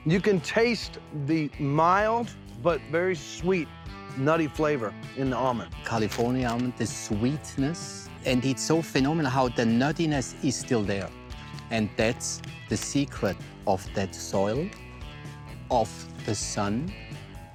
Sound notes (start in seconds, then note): none